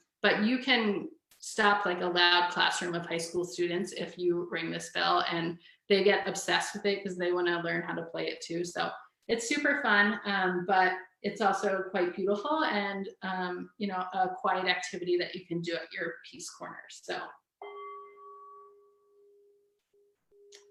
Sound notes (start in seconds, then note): 17.6 bell rings